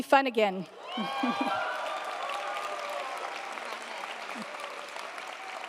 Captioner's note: audience applauding